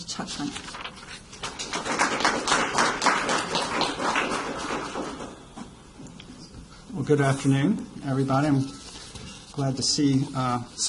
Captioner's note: applause